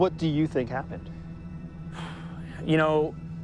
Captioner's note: exhales deeply